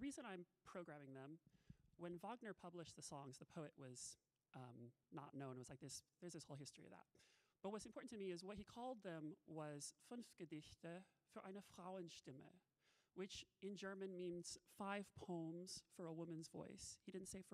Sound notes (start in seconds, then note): 10.1 talking in a foreign language